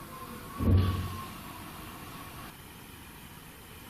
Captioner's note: thumping